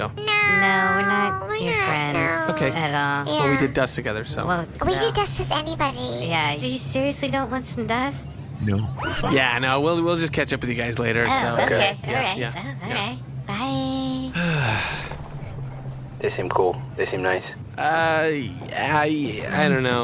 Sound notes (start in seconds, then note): 14.2 Pleck sighs